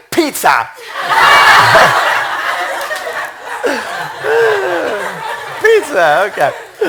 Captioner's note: laughter